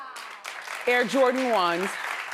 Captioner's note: audience applauds